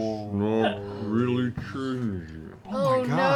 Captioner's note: slow-mo voice